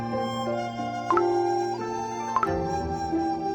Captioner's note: splashes juice